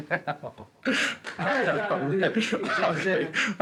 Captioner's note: laughter; laughs